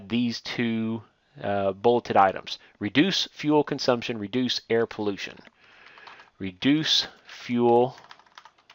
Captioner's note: typing